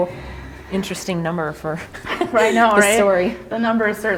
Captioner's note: laughs